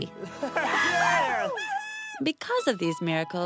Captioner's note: cheering